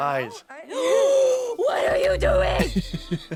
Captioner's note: gasps